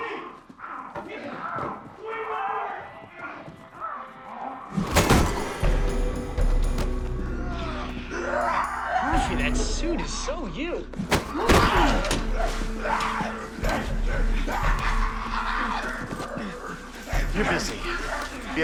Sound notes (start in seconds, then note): 0.0 muffled screaming; 4.8 thud; 11.0 thud; 12.8 snarling